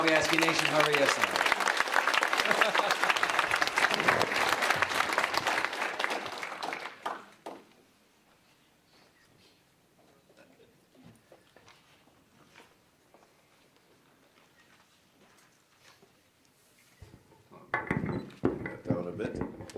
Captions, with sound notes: of the Nishnawbe Aski Nation. (applause)